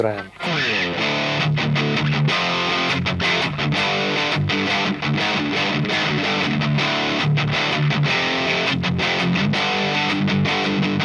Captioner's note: Low gain sound